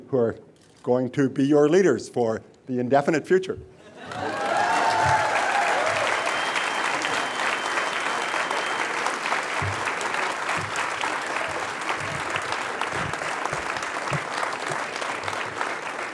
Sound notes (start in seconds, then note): 4.0 crowd cheering; 5.0 applause